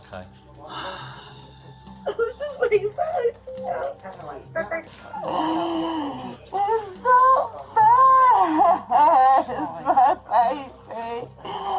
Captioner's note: cries